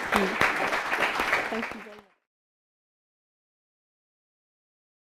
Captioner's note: applause